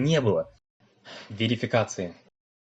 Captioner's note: sigh